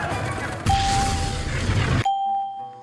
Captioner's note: explosions